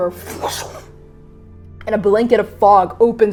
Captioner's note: fwooshing